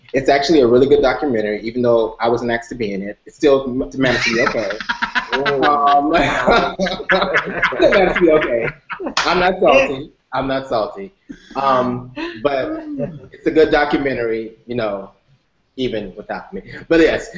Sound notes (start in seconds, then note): 6.8 laughter